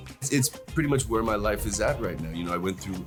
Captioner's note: none